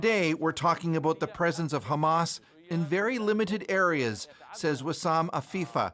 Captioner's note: speaking alternate language